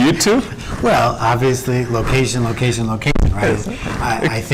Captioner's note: laughs